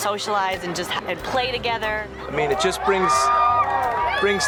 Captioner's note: crowd cheers